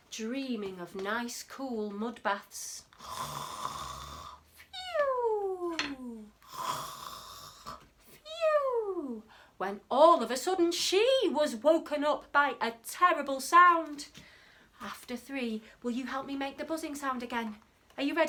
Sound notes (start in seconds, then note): 2.9 snoring